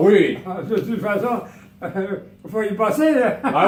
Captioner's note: laughing